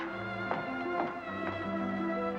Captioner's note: boot steps